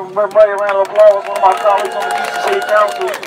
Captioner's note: hand Claps